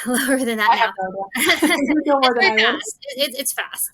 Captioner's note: both Laughing